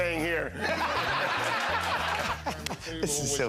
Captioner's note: laughter